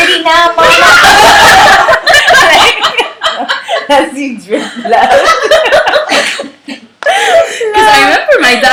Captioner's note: laughter